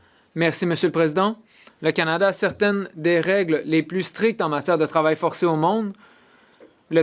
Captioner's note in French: voix de l'interprète